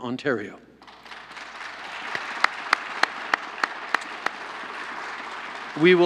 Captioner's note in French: Applaudissements